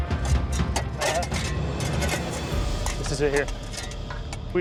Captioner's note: none